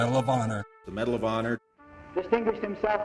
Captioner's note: voiceover